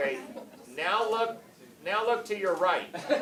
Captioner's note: cameras clicking